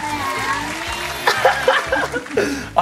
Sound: dad laughing

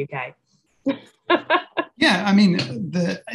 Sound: laughs

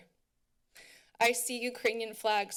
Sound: inhales

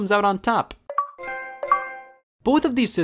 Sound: Xbox and PlayStation sounds

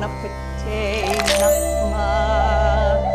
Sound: spirtiual music and chimes come in underneath; neck crunch

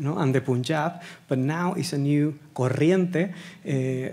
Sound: speaking Spanish

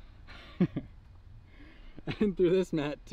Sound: laughing

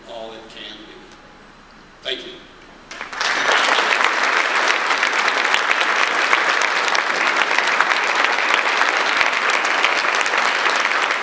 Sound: audience applause

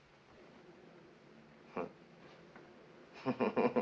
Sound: chuckles

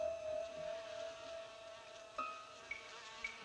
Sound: flies buzzing

